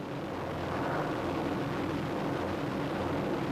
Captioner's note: planes roaring